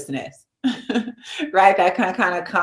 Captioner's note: chuckles